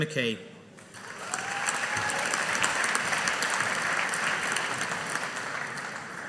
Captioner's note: audience applauding